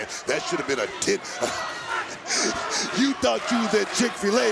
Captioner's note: chuckles